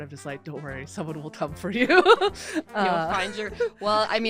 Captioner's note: laughs